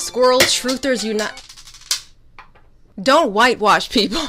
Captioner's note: clattering